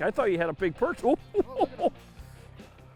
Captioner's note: guffaws